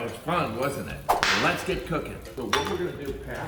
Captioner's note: whip snapping